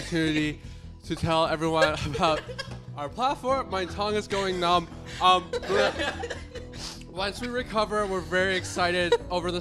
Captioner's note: laughter